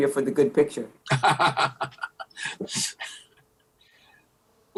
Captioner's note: laughing